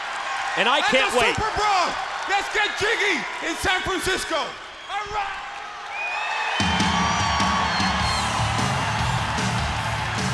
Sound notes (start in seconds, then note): 7.4 crowd cheering